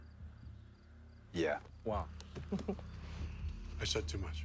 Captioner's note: laughs